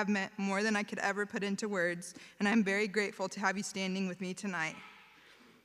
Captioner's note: none